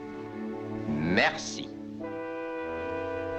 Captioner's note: speaking french